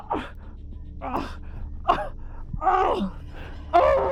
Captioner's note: Arawn groaning; tense music